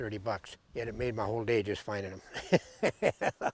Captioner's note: laughs